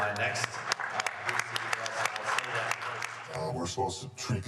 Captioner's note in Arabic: يصفق الجمهور